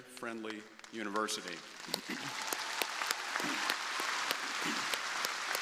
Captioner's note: crowd applauding